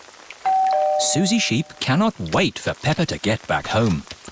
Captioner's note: doorbell rings